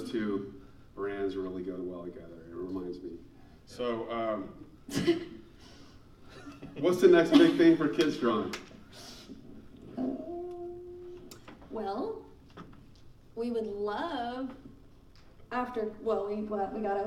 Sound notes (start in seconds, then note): 6.3 laughing